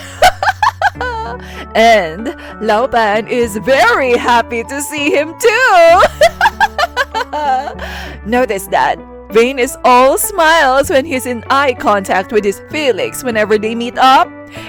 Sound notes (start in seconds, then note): 0.0 laugh; 5.9 happy laugh